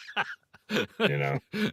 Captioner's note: both laughing